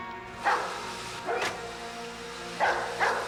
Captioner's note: dog barking